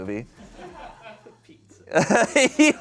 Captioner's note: people laugh